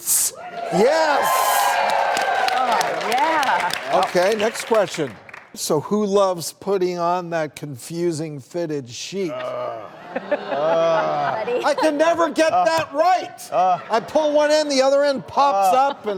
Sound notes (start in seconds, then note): 0.6 audience applauding; 9.4 laughing